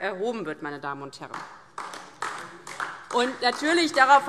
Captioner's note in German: Beifall DIE LINKE und vereinzelt SPD